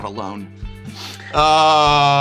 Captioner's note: sniffs